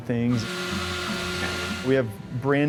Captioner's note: machine whirring